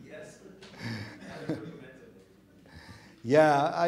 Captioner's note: audience mumbling